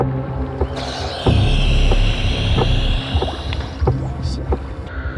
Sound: oxygen tank whooshing

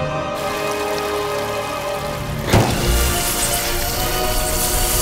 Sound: water splashing

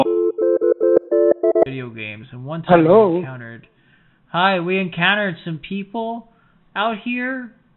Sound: phone rings

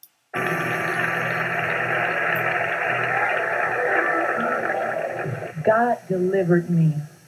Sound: sounds of praises from the congregation

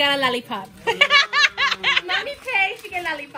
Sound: Steph laughing

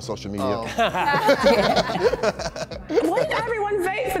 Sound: challengers laugh

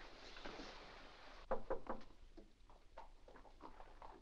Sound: knocking on door

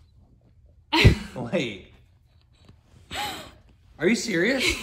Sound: laughs

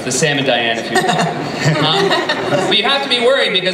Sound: laughing

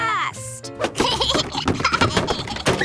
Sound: laughing

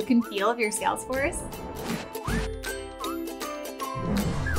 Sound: frame whooshes

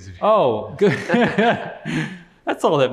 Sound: laughing

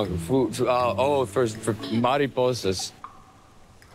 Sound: speaking spanish

